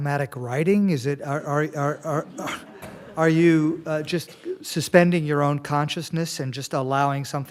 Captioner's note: laughter